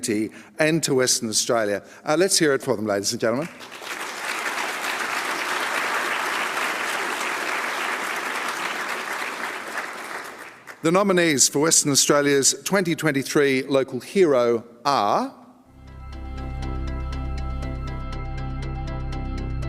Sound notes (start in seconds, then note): 3.4 applause